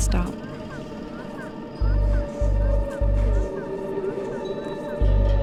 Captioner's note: baby dolls calling out "mama"